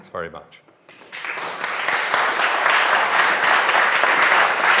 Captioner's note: audience applauds